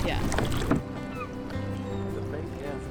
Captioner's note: seagulls calling